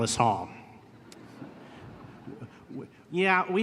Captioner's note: laughter